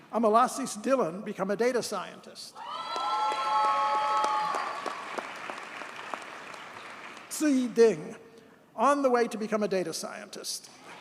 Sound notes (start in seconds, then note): 2.6 audience cheers and applauds